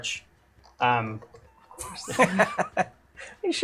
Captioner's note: laughs